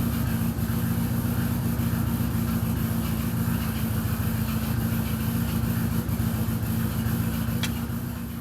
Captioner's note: engine noise